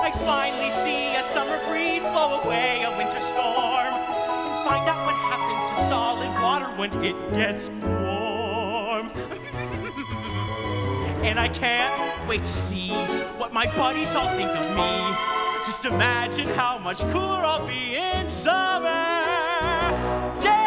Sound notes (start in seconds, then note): 9.2 laughs